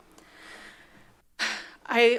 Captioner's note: deep breath